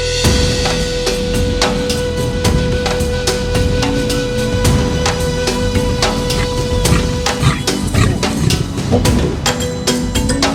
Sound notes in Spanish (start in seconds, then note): 0.3 Música animada; 6.0 jadea